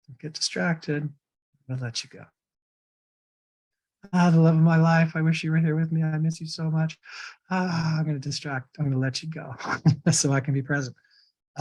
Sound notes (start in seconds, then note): 7.5 sighs; 9.5 chuckles